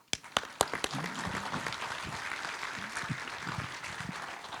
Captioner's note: audience applauding